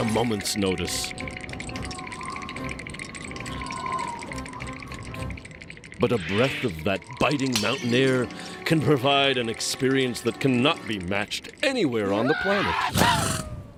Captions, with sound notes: AT A MOMENT'S NOTICE. (wind whistling) BUT A BREATH OF THAT BITING MOUNTAIN AIR CAN PROVIDE AN EXPERIENCE THAT CANNOT BE MATCHED ANYWHERE ON THE PLANET. AH-CHOO!